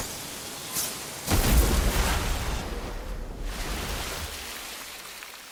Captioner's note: water flowing; water exploding